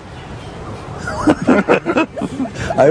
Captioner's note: laughter